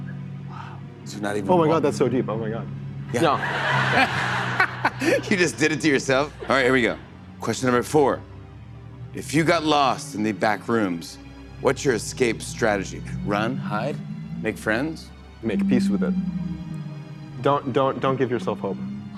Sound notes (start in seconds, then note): 3.2 laughter